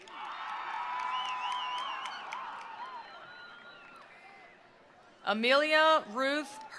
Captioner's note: attendees applauding; attendees cheering